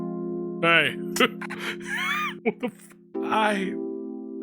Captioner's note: laughs